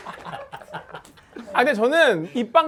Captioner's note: clap